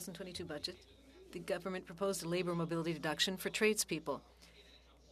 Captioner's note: speaking French